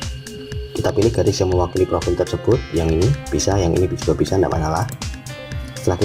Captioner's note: click